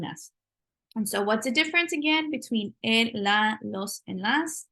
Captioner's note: spanish